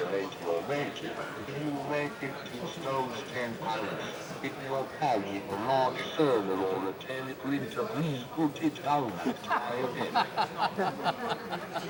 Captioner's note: chattering; laughing